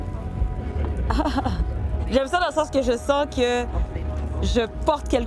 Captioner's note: soft laugh